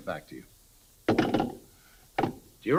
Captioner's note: phone clatters